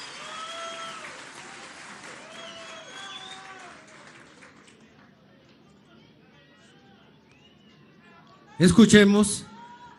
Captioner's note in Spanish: aplausos